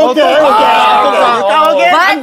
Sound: studio is chattering

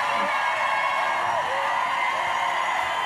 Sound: crowd cheers

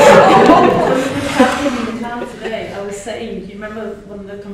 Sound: laughter

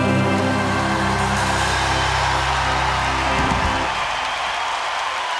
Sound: crowd applauds and cheers

